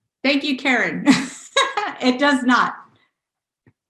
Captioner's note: laughs